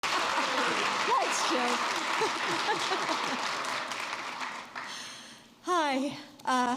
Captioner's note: applause